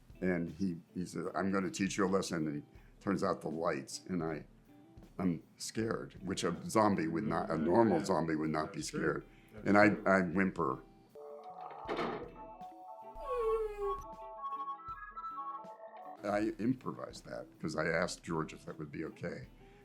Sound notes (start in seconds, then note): 13.1 wimpers